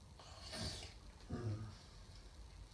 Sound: groans

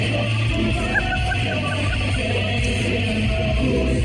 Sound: laughter

